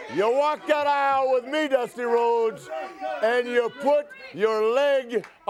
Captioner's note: crowd chatter